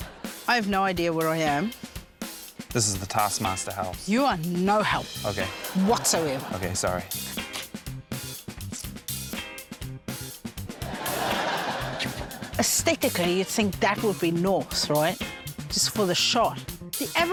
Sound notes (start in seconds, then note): 0.0 laughter; 10.8 laughter